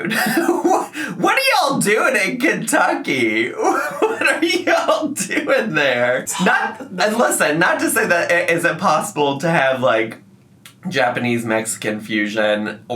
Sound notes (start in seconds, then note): 0.0 laughing; 3.4 laughs